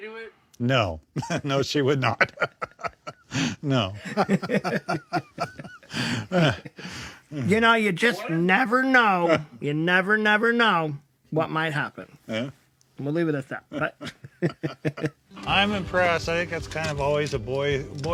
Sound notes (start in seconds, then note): 2.1 chuckles